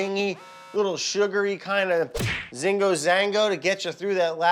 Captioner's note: speaking in foreign language